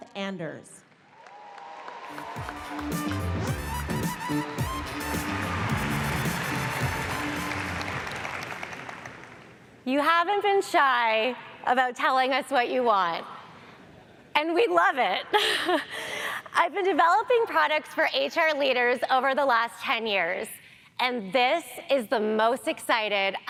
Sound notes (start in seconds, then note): 1.2 audience applauds; 2.2 pop music; 15.3 laughs